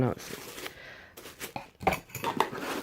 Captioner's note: rustling paper